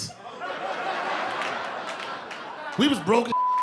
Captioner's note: laughter